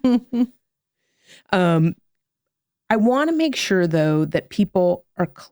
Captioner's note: laugh